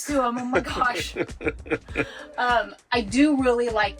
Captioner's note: laughing